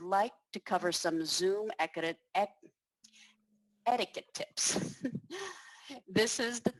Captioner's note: laughter